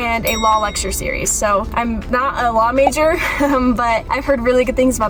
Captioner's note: chuckles